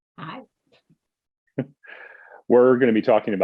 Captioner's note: chuckles